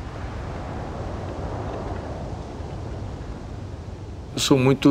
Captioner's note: desert wind howling